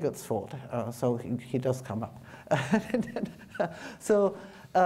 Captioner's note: chuckles